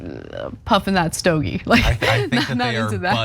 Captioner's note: laugh